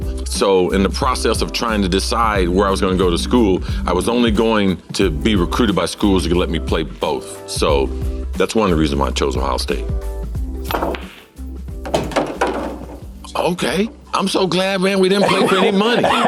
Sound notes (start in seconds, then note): 11.8 balls hitting. Ball dropping in socket